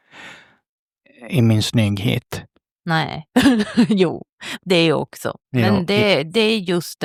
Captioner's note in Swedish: skratt